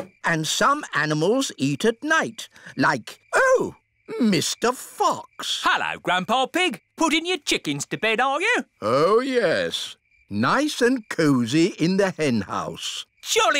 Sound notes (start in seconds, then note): none